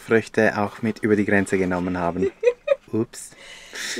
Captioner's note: laughs